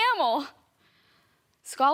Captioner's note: soft breathing